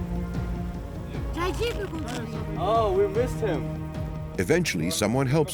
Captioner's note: woman speaking Serbian